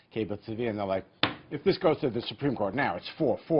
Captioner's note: thud